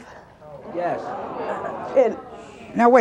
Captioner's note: audience sighing and mumbling